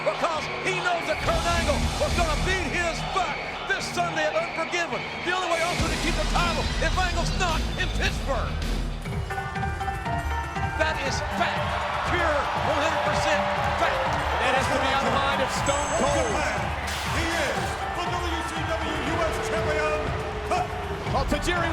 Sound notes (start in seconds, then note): 9.4 upbeat music; 10.7 audience cheers